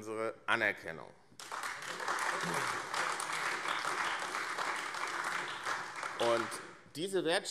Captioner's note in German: Beifall AfD